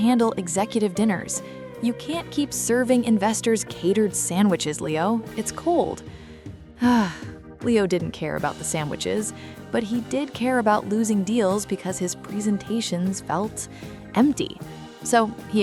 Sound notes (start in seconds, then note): 6.7 sigh